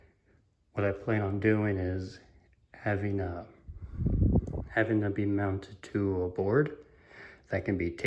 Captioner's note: wind noise